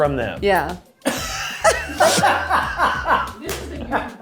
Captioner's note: and crew laugh